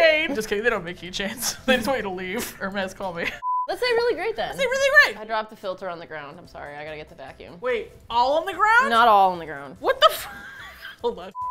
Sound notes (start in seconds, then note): 7.8 alarmed; 10.1 laughs